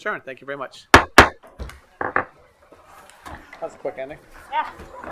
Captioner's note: gavel bhangs